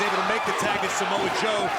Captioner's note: crowd cheering